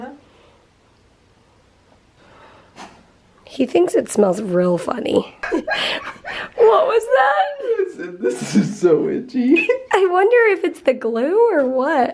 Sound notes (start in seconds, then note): 2.6 sniffs; 5.4 laughter